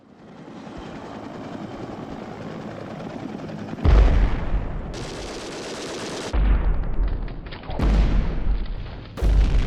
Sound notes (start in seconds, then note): 0.0 helicopter blades whirring; 3.9 guns firing